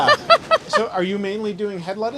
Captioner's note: laughing